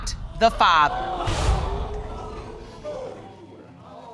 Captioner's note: audience gasping